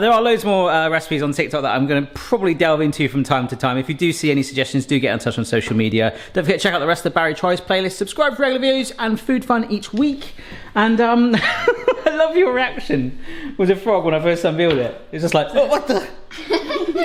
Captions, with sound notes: There are loads more recipes on TikTok that I'm gonna probably delve into from time to time. If you do see any suggestions, do you get in touch on social media. Don't forget, check out the rest of the "Barry Tries" playlist. Subscribe for our new videos and food fun each week and (laughs) I loved you reaction with the frog when I first unveiled it. It was just like "Oh, what the?"